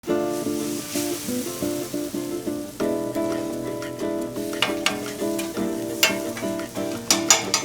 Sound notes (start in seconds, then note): 0.0 light music; 0.2 food sizzling